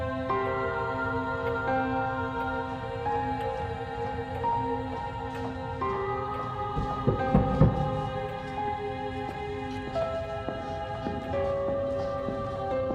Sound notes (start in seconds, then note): 1.3 gentle music continues; 7.0 object thudding; 10.3 gentle music